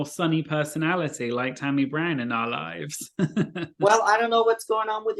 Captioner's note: laughs